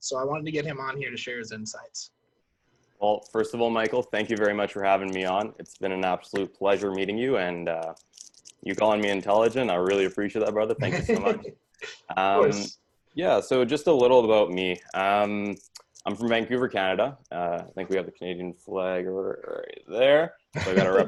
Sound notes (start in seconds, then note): 10.6 laughs